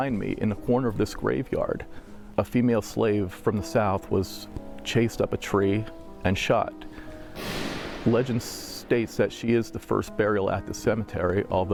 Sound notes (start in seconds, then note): 7.3 gunshot sound